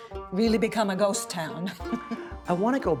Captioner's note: chuckles